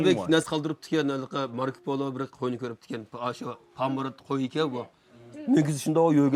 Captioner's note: translator speaking in foreign language